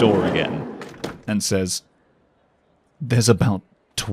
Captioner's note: train door closes and crowd noises get quiet